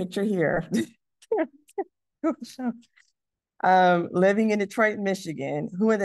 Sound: laughs

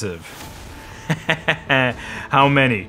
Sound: laughs

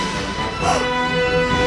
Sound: gasp

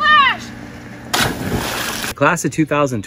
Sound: water splashing

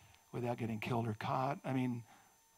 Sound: none

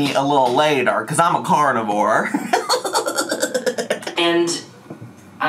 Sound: laughs

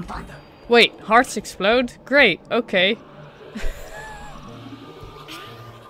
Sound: chuckles

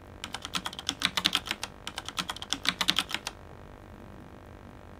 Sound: typing noises

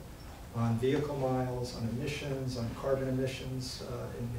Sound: none

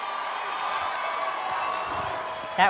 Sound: cheers and applause

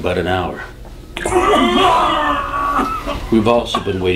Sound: Danny vomits very loudly

